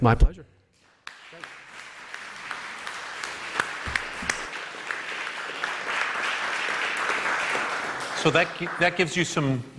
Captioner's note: applause